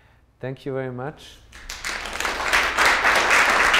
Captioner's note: applause